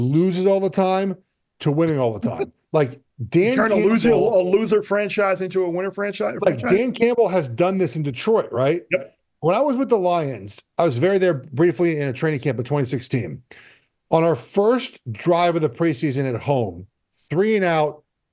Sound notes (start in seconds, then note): 3.3 chuckles